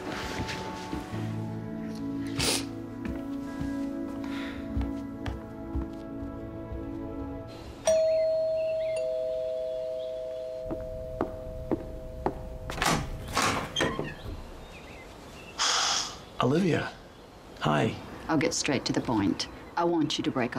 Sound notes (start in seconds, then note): 0.3 sniffles; 5.7 doorbell rings